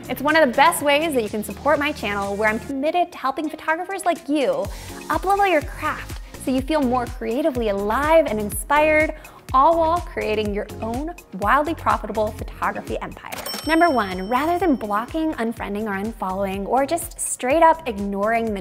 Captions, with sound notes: It's one of the best ways that you can support my channel where I'm committed to helping photographers like you up-level your craft. So you feel more creatively alive and inspired, all while creating your own wildly profitable photography empire. (bell dings) Number one, rather than blocking, unfriending or unfollowing, or just straight up ignoring